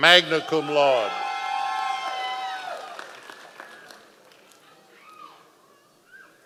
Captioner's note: members of the audience cheering